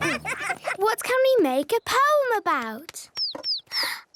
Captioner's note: bird tweeting